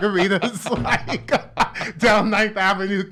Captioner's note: laughs